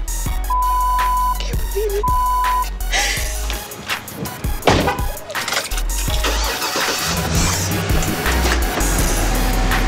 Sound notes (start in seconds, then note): 6.0 engine revs